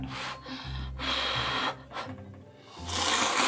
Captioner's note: blowing the noodles